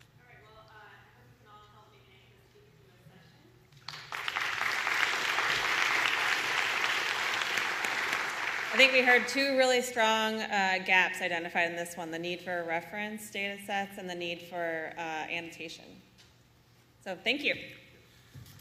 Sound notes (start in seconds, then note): 6.9 applause